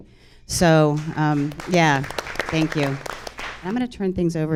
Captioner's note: audience applauds